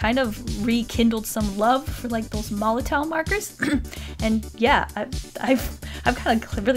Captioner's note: clears throat